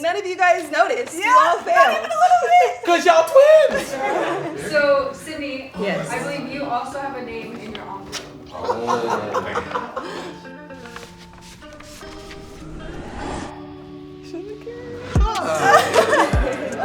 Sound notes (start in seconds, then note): 8.5 laughing; 11.4 upbeat music; 13.4 laughing